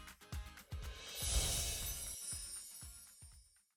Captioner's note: chiming